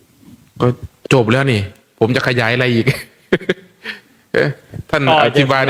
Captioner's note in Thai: เสียงหัวเราะ